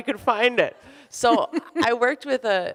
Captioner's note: laughs